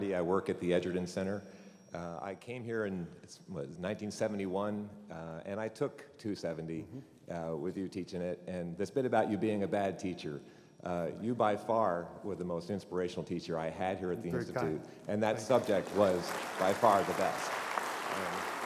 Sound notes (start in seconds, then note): 15.4 applause